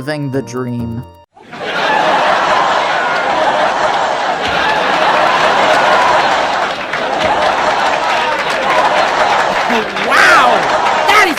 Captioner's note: stock laughter on loop